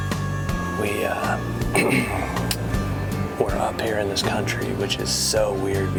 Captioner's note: whispering